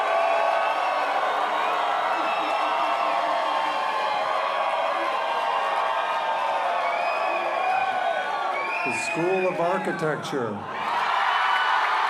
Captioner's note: raucous cheers and applause